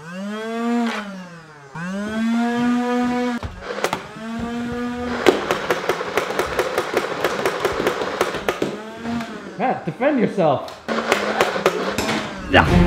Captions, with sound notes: (Nerf gun revving) (Nerf gun shooting) Matt, defend yourself!